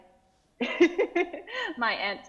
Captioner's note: laughing